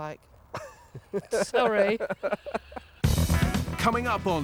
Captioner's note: laughs